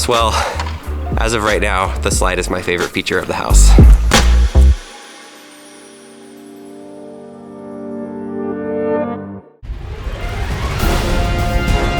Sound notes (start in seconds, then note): 4.3 chimes; 8.8 intense music